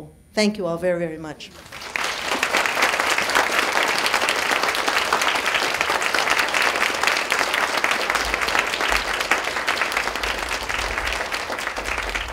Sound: clapping

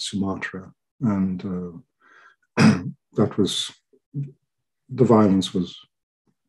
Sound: clears throat

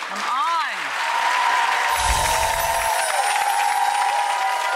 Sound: applause

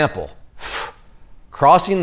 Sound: exhaling

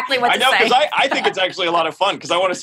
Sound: laugh

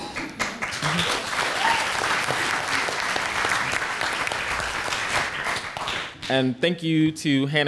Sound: applause

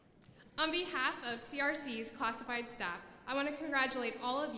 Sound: none

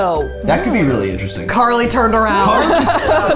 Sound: laughing

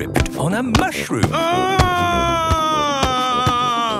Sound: shouting

